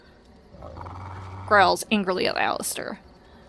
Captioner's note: growls